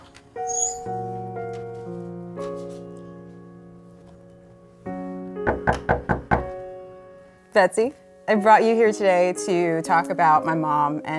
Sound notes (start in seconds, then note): 0.4 squeaking; 5.5 knocking